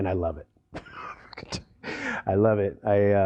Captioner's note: laughter